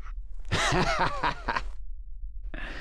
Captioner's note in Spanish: se ríe; continúa riéndose